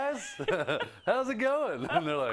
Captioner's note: laugh